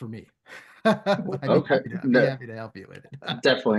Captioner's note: laughter